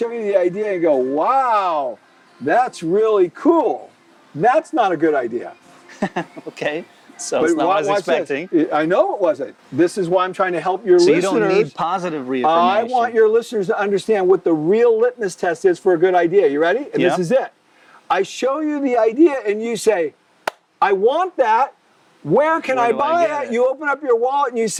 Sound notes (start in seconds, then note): 5.9 laughs